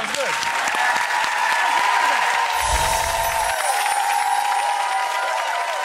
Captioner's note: applause and cheering